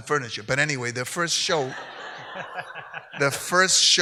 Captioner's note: audience laughs